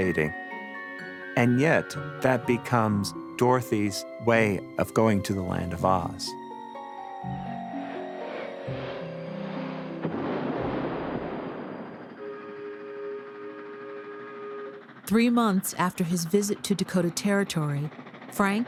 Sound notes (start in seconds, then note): 9.4 loud crash; 12.1 train horn blares